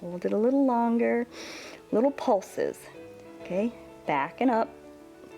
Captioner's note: inhales